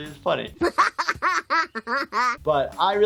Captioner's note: Bart Simpson laughing